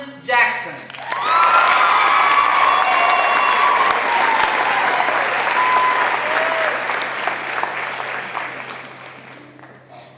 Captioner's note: applause